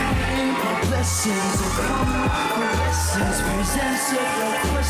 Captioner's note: crowd screaming